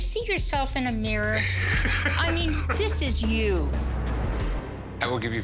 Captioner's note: laughter